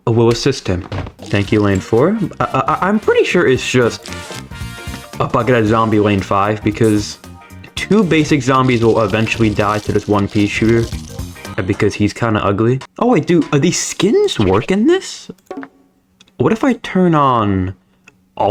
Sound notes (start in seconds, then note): 2.2 stutter Moment